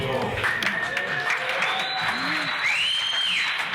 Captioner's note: crowd cheering and applauding